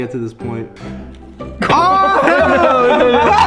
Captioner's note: chuckles